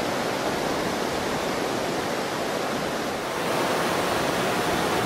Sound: waves crashing; drone motors running

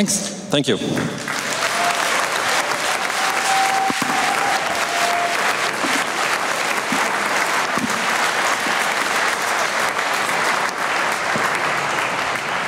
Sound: applause

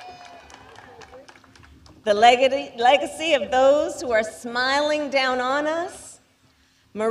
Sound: applause

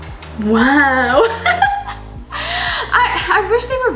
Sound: laughs

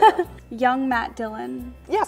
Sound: woman laughing

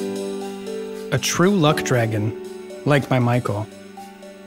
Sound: JUSTIN voiceover

